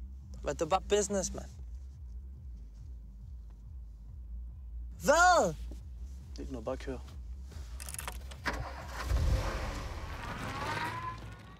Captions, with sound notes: Just business. What?! Nothing. Let's go! [ENGINE STARTS]